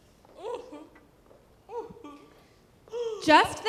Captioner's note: Aunt Rhodie sobbing